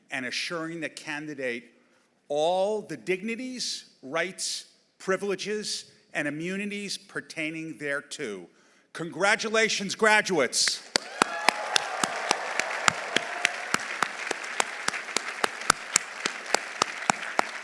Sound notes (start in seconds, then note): 10.8 audience applauding; 10.9 audience cheering